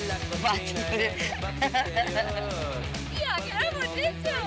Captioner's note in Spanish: ríe